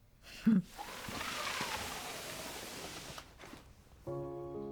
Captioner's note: sliding basket